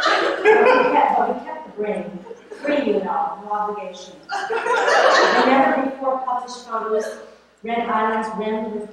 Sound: laughter; laughter

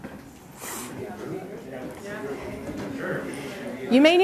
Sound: chatter

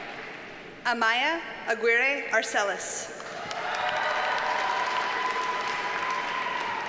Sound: audience cheers and applauds

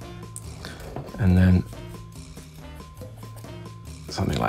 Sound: pen scratching

